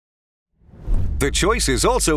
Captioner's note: logo swooshing